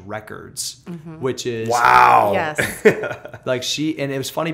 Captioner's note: laughter